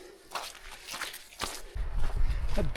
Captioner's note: water splashing